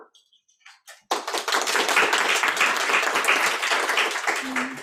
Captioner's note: audience applauding